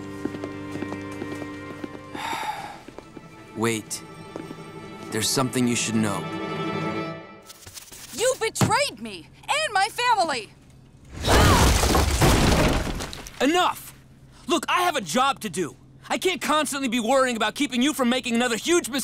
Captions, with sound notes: [sighs] Wait. There's something you should know. You betrayed me and my family! Enough! Look, I have a job to do. I can't constantly be worrying about keeping you from making another huge mistake.